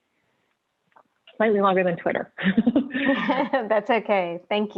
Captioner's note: chuckling; laughing